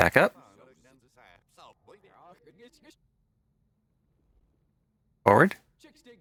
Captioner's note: reversed audio